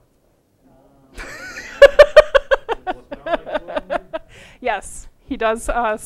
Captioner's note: laughter